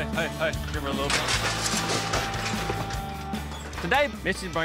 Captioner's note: clanging sound